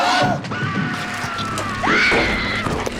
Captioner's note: tybee screaming; screams